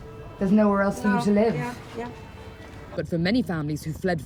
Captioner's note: through translator